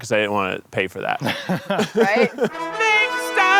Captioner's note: laughing